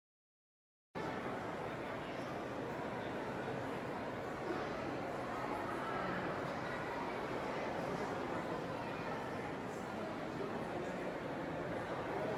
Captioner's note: rumble of museum visitors